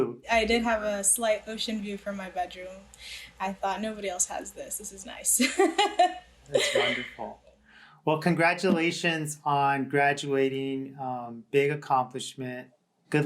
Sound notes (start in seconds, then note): 6.5 laughs